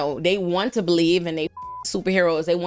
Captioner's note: beep